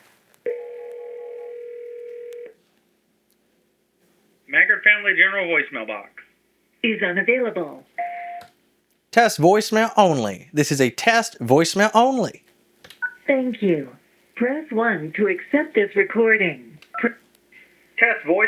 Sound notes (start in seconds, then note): 2.2 phone Ringing; 8.8 phone beeps